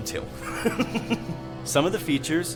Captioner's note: Christopher laughs